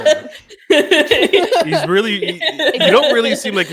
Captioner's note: laughter